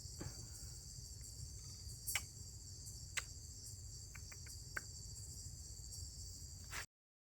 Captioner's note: kissing sounds